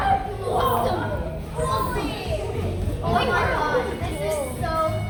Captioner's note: children murmuring